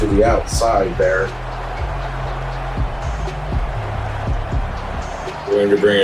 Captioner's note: crowd Noises